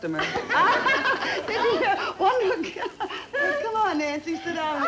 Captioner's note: ladies laugh